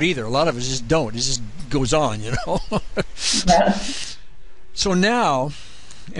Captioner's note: laughs